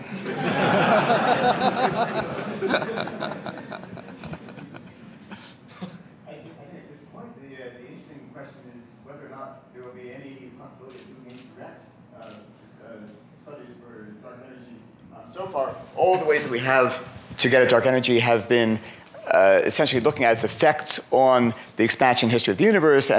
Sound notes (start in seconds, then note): 0.0 laughter; 11.6 speaking off microphone